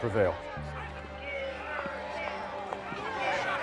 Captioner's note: protesters chanting